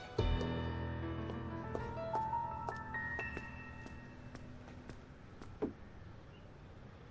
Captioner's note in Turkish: Ayakkabı sesi